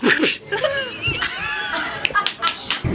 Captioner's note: laughter